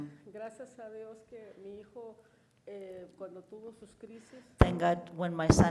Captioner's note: woman speaks in foreign language